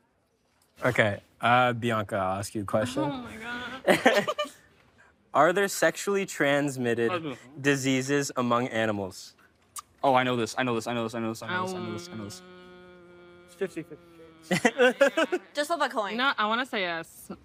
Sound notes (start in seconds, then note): 14.5 laughing